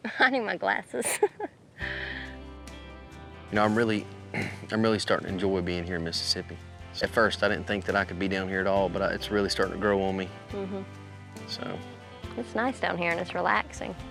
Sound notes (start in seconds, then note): 4.4 clears throat